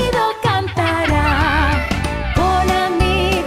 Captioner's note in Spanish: Sonido de cotorras; Risas